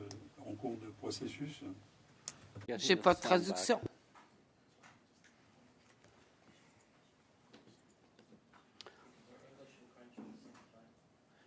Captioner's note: speaking French